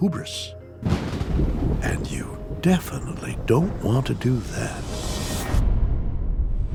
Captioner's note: thunder crashes